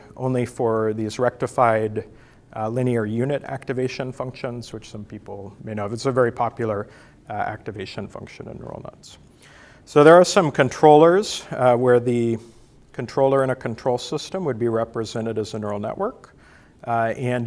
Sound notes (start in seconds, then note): none